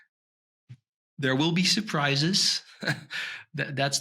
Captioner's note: chuckles